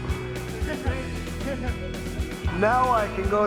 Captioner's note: laughing